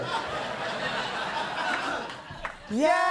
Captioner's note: laughter